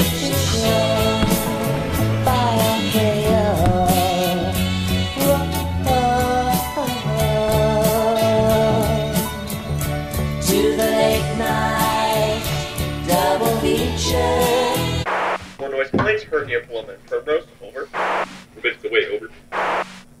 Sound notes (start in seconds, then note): 15.7 more noise complaints heard near Paloma and Primrose, over